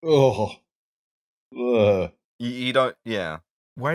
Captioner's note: revolted noise